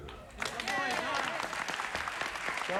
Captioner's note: applause